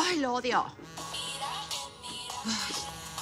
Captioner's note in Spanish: Suena el celular